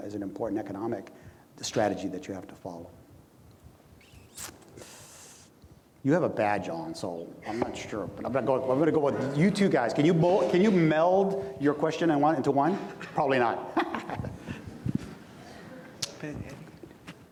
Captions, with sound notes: is an important economic strategy that you have to follow. You have a badge on, so I'm not sure, but I'm going to go with you two guys. Can you meld your question into one? Probably not. (laughs)